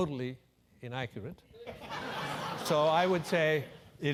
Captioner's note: laugh